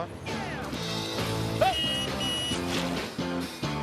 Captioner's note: car horn honks